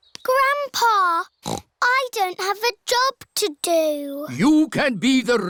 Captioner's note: snorts